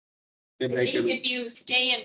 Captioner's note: audience cheers